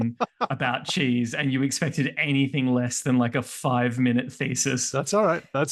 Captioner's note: laughing